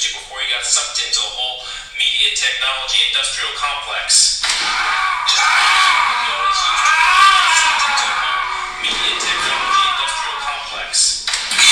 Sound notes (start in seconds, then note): 4.9 Manny groans and yells